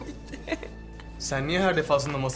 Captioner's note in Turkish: Gülme sesi